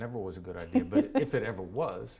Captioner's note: laughs